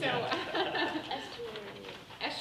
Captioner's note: people laughing; laughing